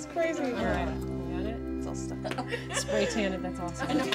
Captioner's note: indistinct chatter